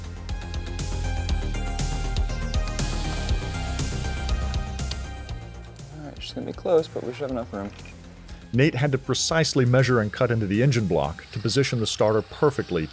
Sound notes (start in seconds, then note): 0.1 lively music continuing; 8.5 voiceover